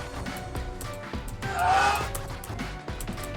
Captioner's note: screaming